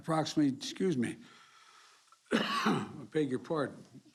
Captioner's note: coughs